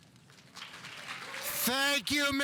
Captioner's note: audience applauding